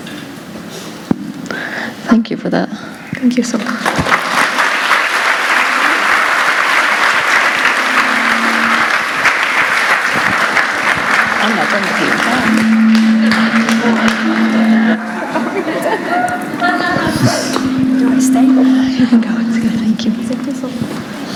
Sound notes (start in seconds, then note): 7.9 applause; 15.2 chuckles & Laughter